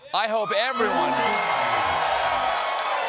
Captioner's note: cheers and applause